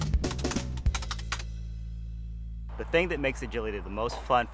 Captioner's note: percussion riff; keyboard keys typing